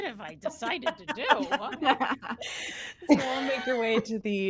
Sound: all laughing

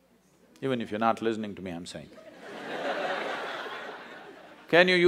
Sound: laughter

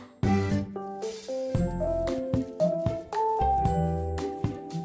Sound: squeezing sound

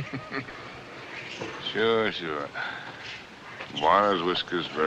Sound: chuckling

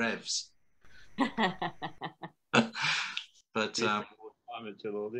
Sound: laughing

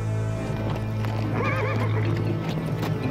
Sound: horses trotting

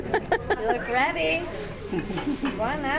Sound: laughing

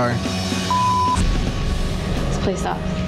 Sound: beep

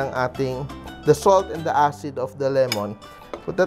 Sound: clang

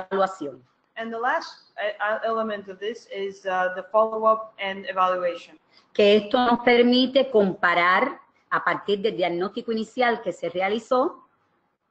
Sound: speaking another language; speaking another language

